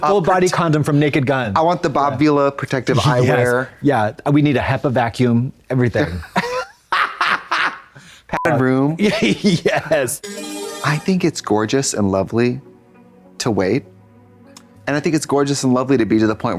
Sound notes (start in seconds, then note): 6.6 blonde Women guffaw; 10.2 bright chime